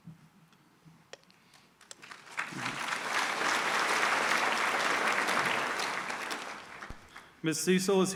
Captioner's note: applause